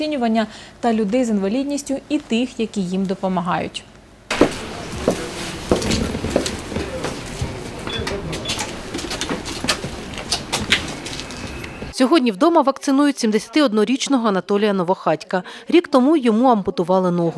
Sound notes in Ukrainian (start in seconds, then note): 4.3 кроки